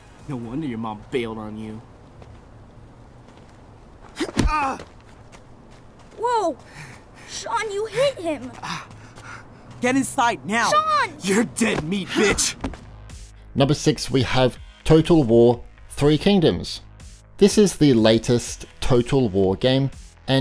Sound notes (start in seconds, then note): 4.3 boy yells; 4.3 low thudding; 9.1 boy panting